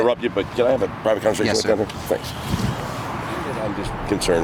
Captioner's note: murmurs